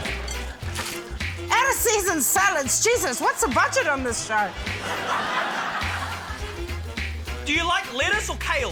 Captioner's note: laughter